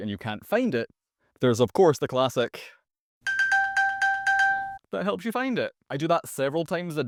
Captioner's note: ding ding ding ding ding